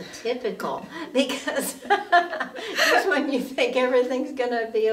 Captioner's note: laughing